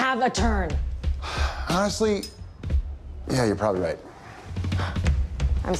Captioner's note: sighs